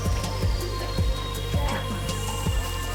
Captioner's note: sizzling food on grill